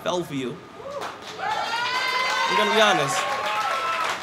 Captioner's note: cheers and applause